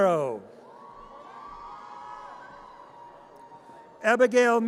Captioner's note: audience cheers